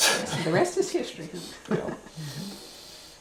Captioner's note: laughs